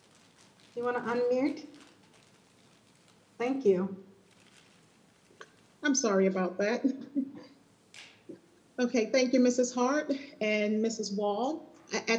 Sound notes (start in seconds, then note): 6.8 laughs